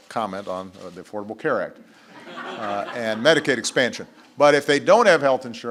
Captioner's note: laughter